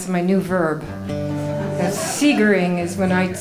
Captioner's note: laughing